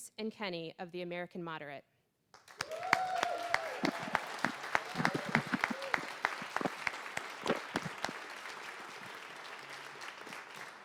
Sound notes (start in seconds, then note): 2.4 applause and cheering